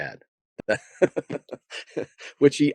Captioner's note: laughing